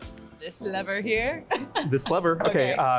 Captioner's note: laughing